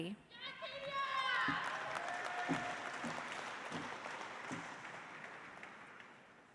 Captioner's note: audience cheers; audience applauds